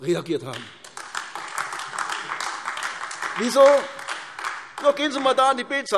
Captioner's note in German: Beifall AfD